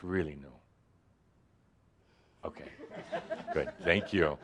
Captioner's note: a few chuckles